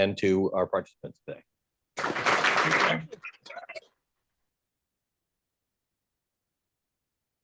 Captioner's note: applause